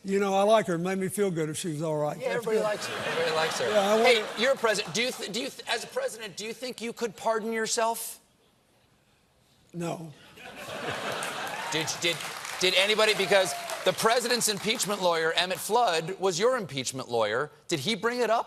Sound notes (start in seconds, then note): 9.4 applause; 10.4 laughter